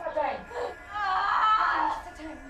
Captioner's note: screams, in pain